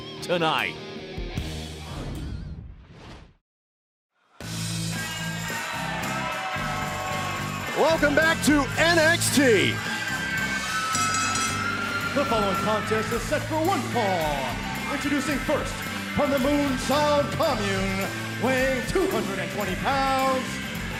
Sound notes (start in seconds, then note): 10.6 bell ringing